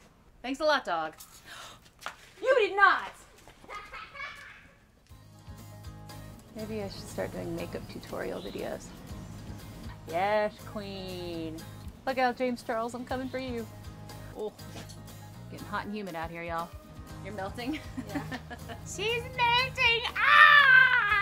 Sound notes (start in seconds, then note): 3.6 child laughing